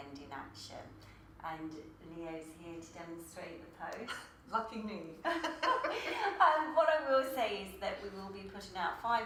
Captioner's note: laughter